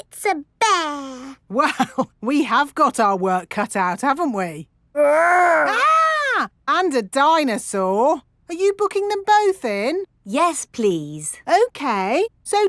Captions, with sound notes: It's a bear! (CHUCKLING) Well, we have got our work cut out, haven't we? -Grr! -(MOCK SCREAMING) And a dinosaur! Are you booking them both in? -Yes, please. -Okay.